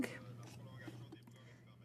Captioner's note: speaking in french